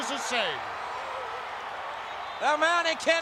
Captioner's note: crowd cheering